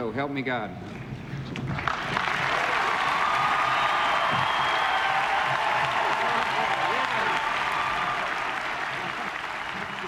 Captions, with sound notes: So help me God. (crowd cheering and applauding)